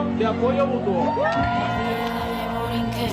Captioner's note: aplauso